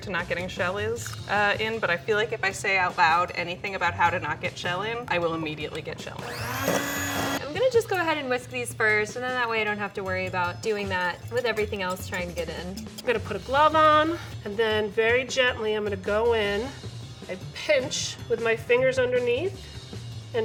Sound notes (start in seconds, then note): 6.2 mixer whirs